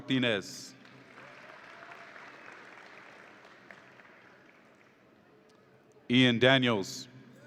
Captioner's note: audience applauds and cheers